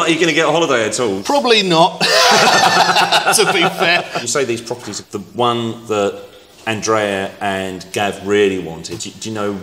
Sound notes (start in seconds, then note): 2.0 everyone laughs